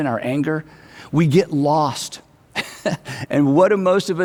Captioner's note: chuckles